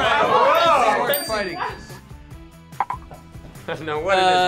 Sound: bell dings

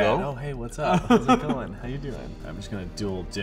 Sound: laughing

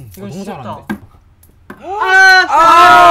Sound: tap! Chap! Falling

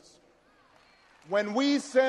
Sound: audience cheers and applauds

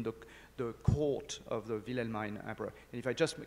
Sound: speaks in foreign language

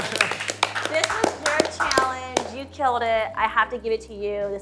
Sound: clapping

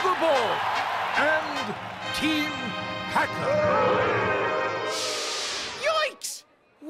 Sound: audience cheers; audience boos

